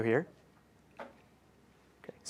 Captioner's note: click